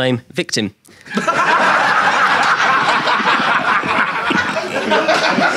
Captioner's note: audience laughing